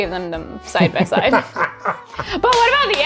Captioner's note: laughing